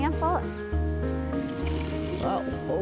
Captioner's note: water rushing